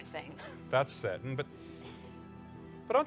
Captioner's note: chuckles